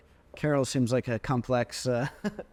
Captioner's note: chuckling